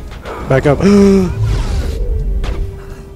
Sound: gasps!!!

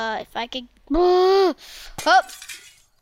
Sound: exhales loudly

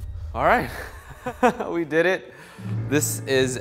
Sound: laughs

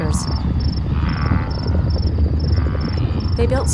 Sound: thundering herd

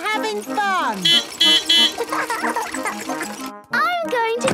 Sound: beeping; laughing

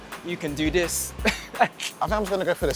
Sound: laughing

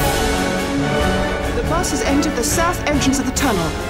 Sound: none

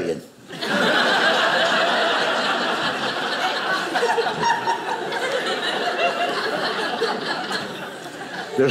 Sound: audience laughing

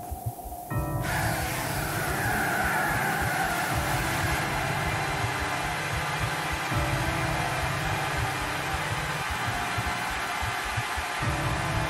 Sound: loud, sustained sweeping noise

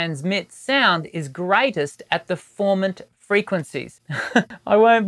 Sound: laughs

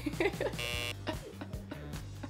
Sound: buzzer sounds; laughs

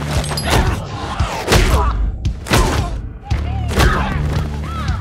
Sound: punch throwing

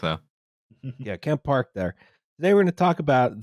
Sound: chuckles

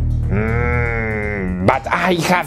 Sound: granny growling

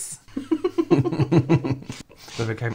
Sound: giggling

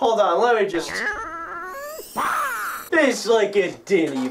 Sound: hrrrngh, bwah!

